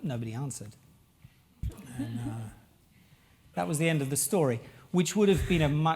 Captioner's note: laugh